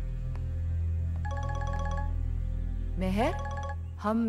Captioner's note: Ringing continues